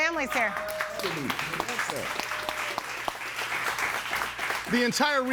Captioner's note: audience cheering and applauding